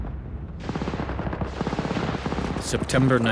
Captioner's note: guns firing